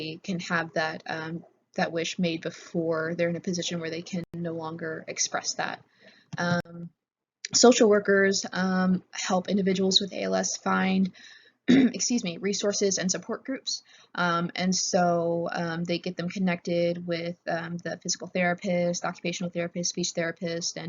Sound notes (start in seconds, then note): 11.7 clears throat